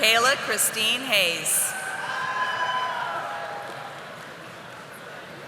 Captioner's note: audience applauding